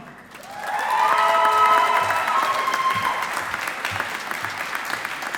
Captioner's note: audience applauding